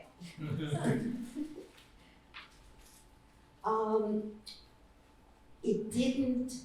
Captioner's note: laughter